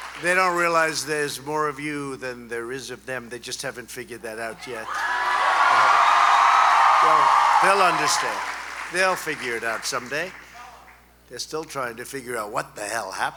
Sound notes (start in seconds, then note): 6.7 applause